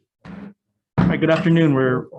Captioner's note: gavel strikes